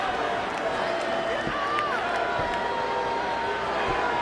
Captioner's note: audience shouting